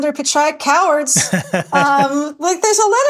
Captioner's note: Nilay laughing